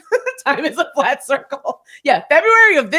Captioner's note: laughing